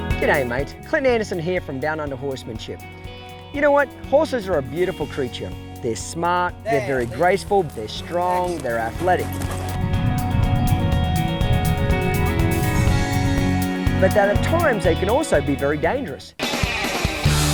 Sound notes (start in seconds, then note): 10.7 horses running; 16.3 rock music